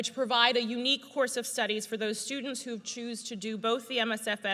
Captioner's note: none